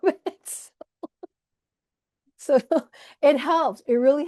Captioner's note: laughs